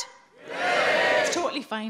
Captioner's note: audience cheering